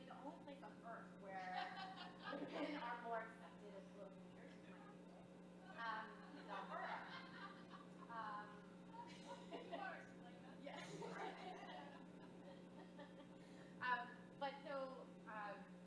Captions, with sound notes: So the only place on earth where (audience laughs) women are more accepted-- (women laughing) - Of course! - Yes. (laughs)